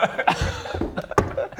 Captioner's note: schoolboy giggles